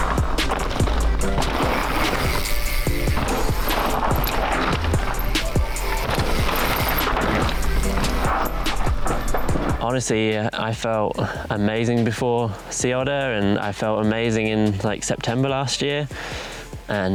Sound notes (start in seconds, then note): 0.2 upbeat music; 2.2 bike whirring